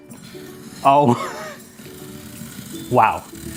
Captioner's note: laughs